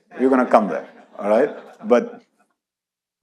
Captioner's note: audience laughs